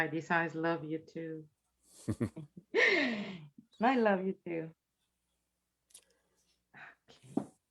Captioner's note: chuckles